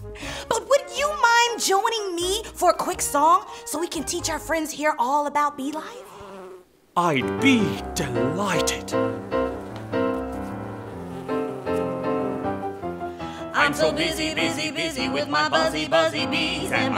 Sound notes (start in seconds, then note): 9.1 bees buzzing; 13.5 singing